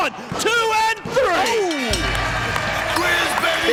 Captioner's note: bell rings